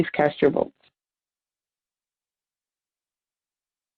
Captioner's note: silence